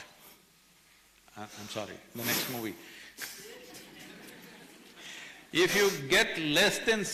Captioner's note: few laugh